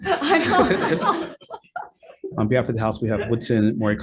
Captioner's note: laughing